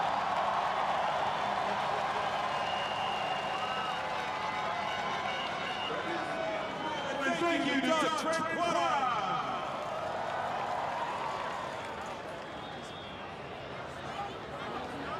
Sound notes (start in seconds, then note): 3.8 applause; 5.8 cheering